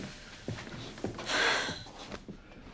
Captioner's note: exhales deeply